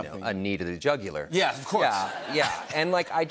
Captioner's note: laughter